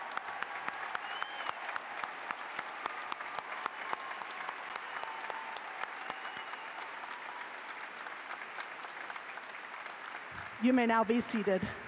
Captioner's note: applause